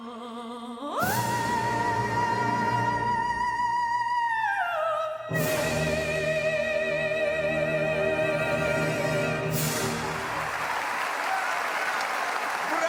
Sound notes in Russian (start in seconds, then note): 1.6 аплодисменты